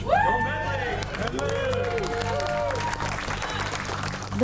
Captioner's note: cheers and applause